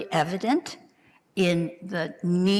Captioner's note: none